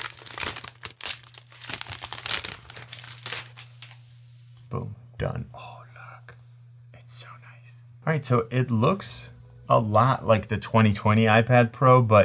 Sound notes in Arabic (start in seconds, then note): 5.8 يهمس